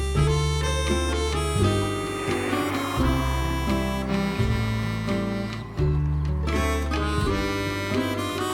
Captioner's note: laughs